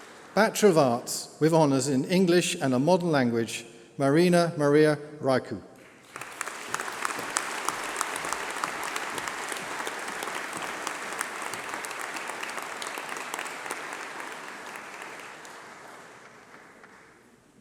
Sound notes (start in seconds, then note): 5.6 applause